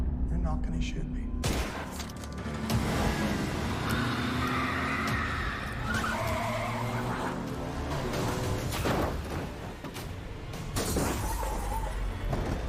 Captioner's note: gunshot